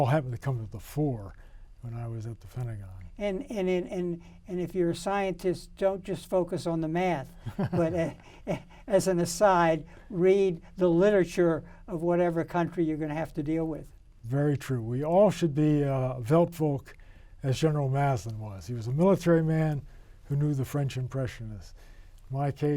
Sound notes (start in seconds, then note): 7.4 men giggling